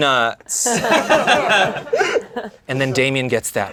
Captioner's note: laughing